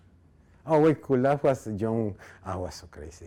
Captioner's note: speaking in foreign language